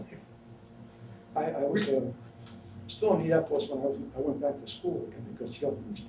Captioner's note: laughs